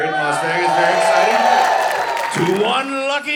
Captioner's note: audience cheering